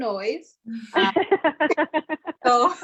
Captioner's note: laughs